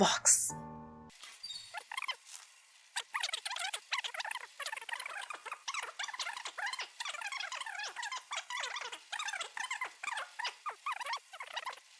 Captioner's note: sped up blah blah blah